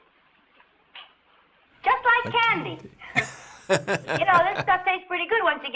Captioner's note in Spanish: riéndose